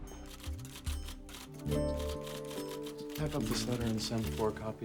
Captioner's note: typing